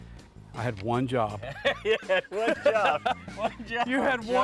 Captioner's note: laughs